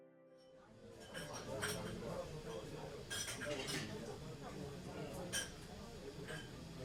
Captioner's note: clinking of dishes